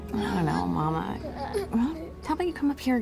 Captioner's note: children straining, grunting